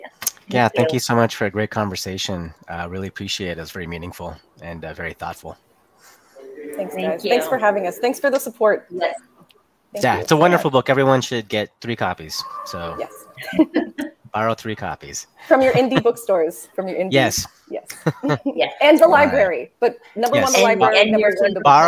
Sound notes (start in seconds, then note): 13.4 chuckling